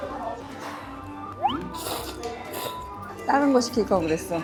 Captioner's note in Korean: 후루룩